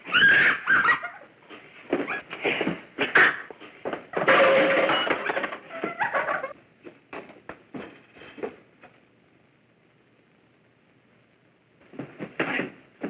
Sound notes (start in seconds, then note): 0.2 Mary screaming; 3.7 clattering